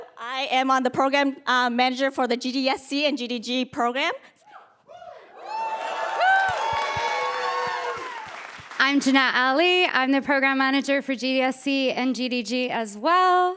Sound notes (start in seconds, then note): 4.9 cheers